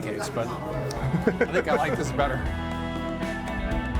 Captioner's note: laughs